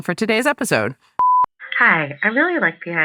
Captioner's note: beep